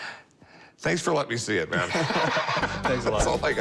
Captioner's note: laughter